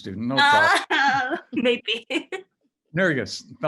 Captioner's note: laughs